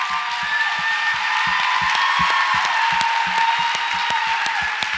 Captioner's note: audience applauds and cheers